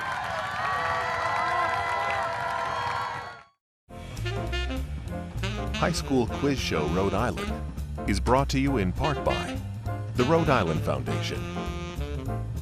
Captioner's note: cheering and applause